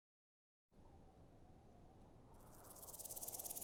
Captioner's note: wind whistling